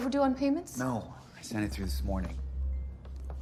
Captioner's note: none